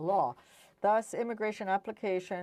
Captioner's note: speaking French